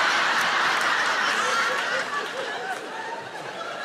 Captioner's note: audience laughing